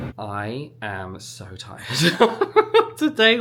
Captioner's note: laughs